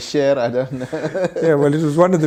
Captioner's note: laughs